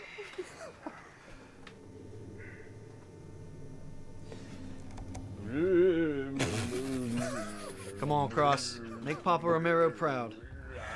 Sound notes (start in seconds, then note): 5.4 goofy groans; 6.8 laughter